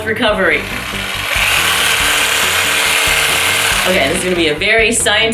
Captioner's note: whirrrrrrrrrr